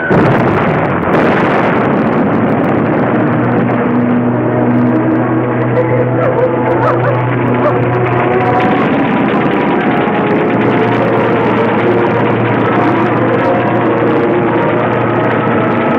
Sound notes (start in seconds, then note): 0.2 explosions roaring; 8.6 guns firing